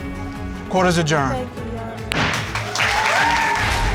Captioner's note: bangs gavel